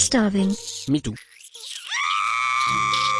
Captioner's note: poor girl screams while poor boy catches the rat